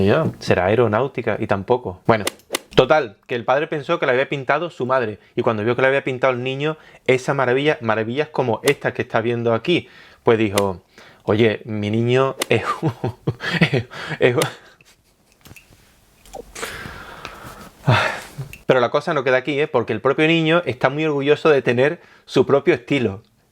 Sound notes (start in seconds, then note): 12.5 laughs